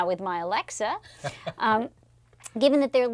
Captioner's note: laugh